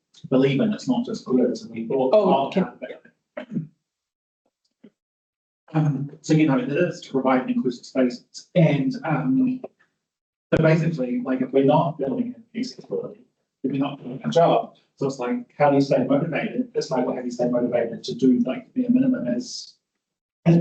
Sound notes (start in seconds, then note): 5.8 attendee clearing throat